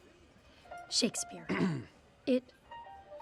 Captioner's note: clears throat